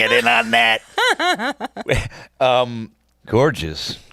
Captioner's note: laughs